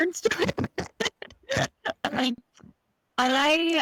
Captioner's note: laughs